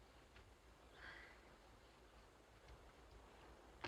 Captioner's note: sighs